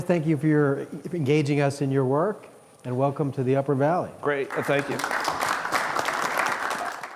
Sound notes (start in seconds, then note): 4.4 audience applauds